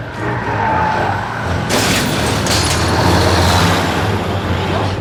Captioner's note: gate crashes; dramatic music